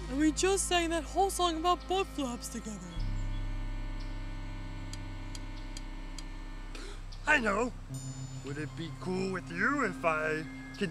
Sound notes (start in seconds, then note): 4.9 clink clink clink